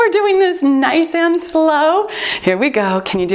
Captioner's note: timer beeps